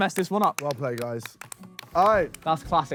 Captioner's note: panel applauds